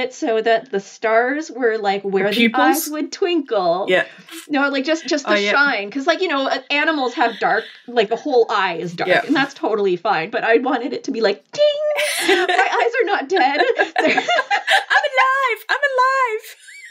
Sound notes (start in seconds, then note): 13.6 laughing